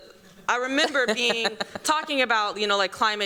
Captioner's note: chuckling